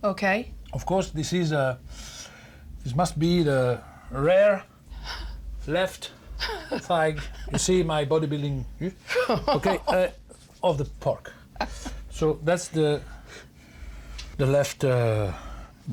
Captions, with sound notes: - >> Of course, this is a -- - This must be the rear - left thigh. - You see my bodybuilding. - >> [ Laughs ] - >> Okay, of the pork. - So, that's the left bottom.